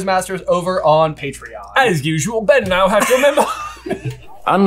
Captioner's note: accented; laughter